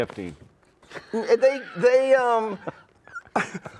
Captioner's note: laughs